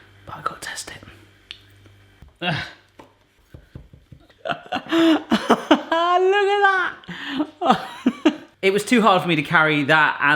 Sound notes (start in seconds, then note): 4.4 laughs